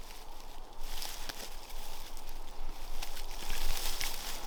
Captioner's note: rustling